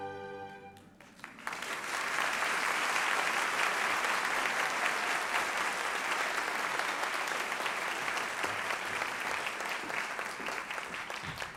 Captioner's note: applause